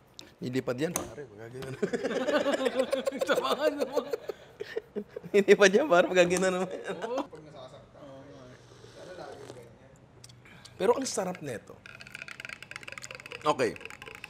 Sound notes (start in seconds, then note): 1.7 laughter; 7.3 background chatter